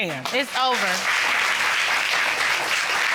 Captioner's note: applause